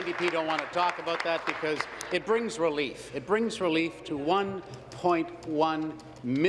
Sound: applause

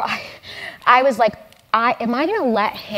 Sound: laugh

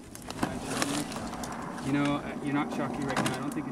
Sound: voiceover

